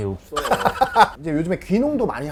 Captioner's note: laughter